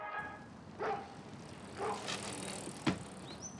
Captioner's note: angus barking